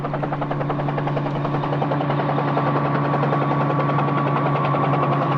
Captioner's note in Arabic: هدير المروحية